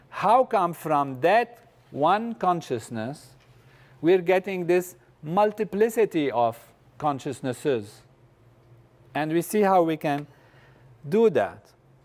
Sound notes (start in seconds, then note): none